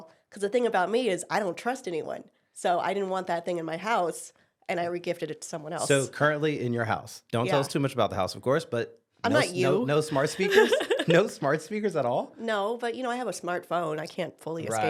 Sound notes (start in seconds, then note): 9.3 laughs